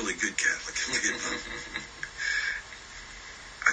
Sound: laughter

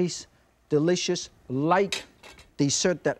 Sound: utensil clinks

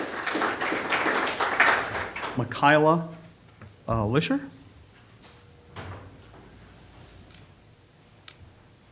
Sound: applause

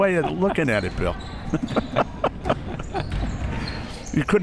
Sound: laughs

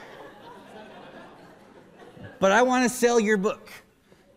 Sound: laughter

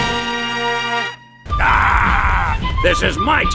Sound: The M36 GMC screams

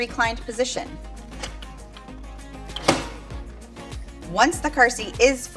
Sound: upbeat music; car seat snapping

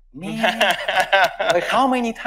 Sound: laughs

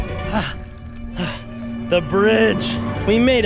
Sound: panting

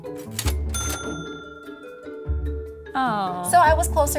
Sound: cash register rings

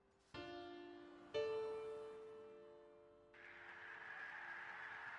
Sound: television sounds

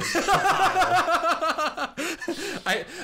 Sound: laughs

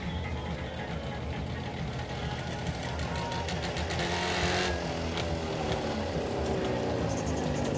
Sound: motorcycle engine

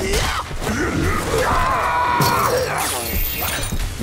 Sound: grunting; screaming

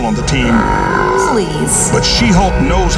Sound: belches

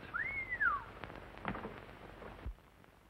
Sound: whistles

